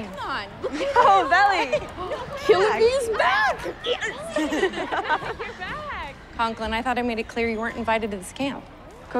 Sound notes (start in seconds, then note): 1.5 chuckling; 4.2 teammates giggling